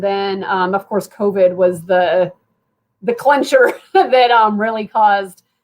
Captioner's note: laughter